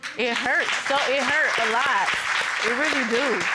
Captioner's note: audience applauding